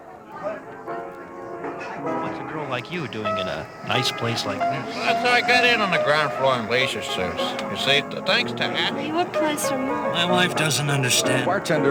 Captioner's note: bar small talk with several people